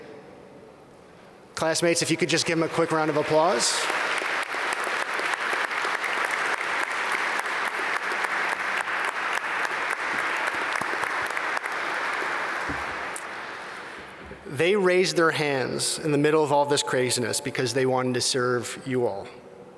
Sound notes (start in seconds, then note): 3.8 applause